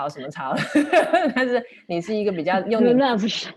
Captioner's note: laughs